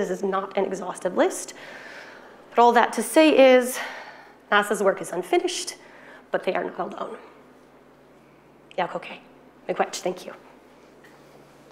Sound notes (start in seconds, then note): 8.9 speaking foreign language